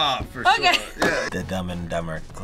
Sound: laughs

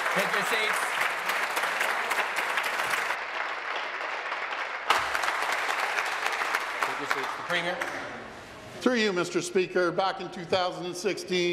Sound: applause

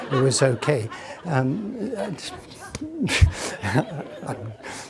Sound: audience laughing

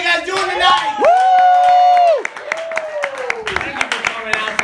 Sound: whoooooooo!

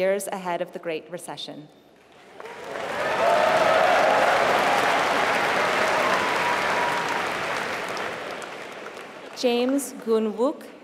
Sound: applause

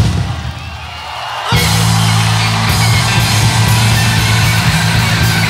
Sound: crowd applauding

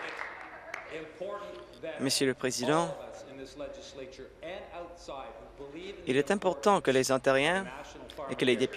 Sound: applause

